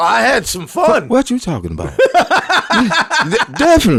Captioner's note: laughing